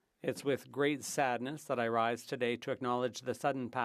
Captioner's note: speaking French